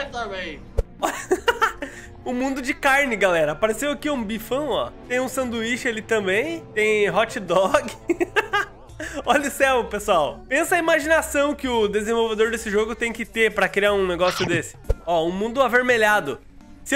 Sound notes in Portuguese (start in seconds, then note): 1.0 risos; 7.6 risos